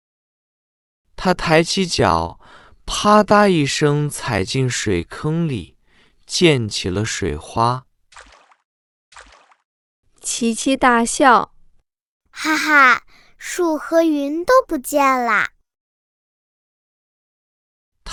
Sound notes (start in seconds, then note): 9.1 splash